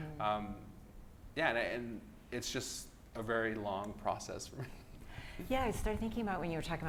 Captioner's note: laughs